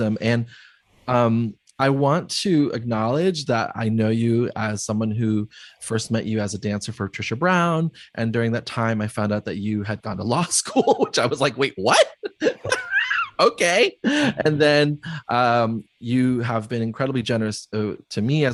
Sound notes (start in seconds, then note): 11.8 laughs